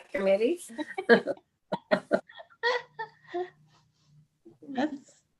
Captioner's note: chuckle